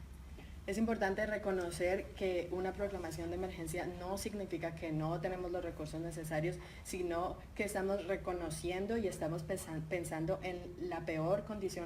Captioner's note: speaking in Spanish